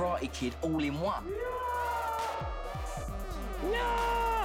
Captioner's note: yelling